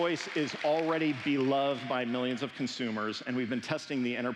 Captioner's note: applause